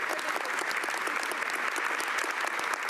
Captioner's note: applause